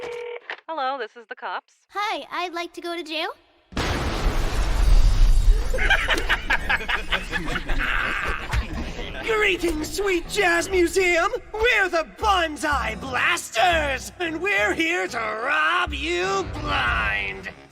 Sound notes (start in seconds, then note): 3.7 explosions!; 3.8 sounds of glass breaking; 5.5 evil laughter